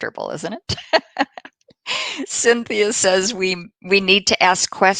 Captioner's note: laughter